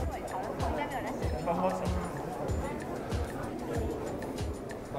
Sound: crowd quietly talking

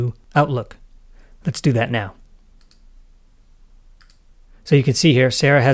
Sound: mouse clicking

